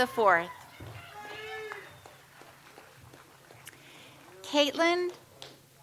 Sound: audience applauds

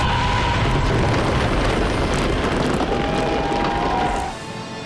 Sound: explosion

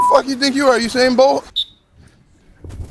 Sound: blows whistle

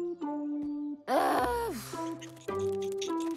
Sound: groaning

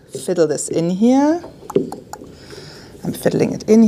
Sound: tongue clicking

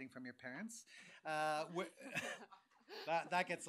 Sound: chuckling

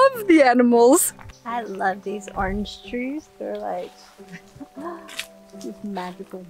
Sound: gasps

